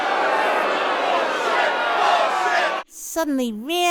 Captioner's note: jeering and booing